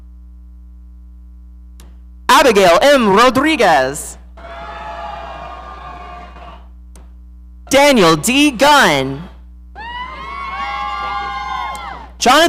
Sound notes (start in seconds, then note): 4.3 audience cheering; 9.7 audience cheering